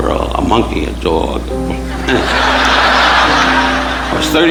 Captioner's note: audience laughing